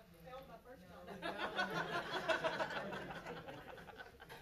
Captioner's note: laughs